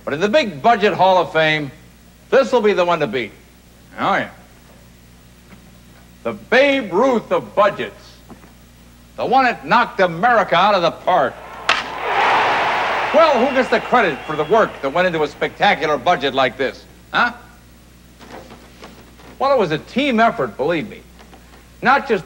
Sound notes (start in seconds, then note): 11.0 baseball bat cracking, crowd cheering